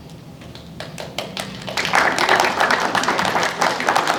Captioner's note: applause